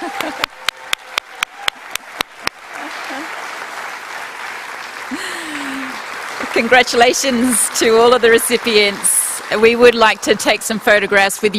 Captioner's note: cheering and applause